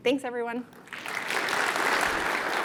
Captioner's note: applause